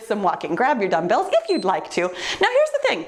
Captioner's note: timer beeps